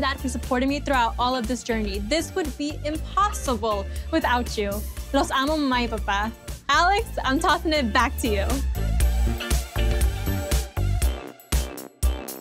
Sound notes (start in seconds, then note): 5.2 speaking in Spanish